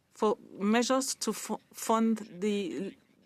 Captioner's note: speaking French